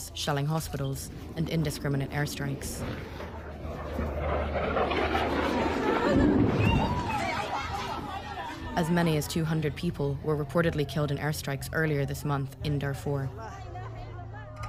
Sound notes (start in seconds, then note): 1.0 warplane flying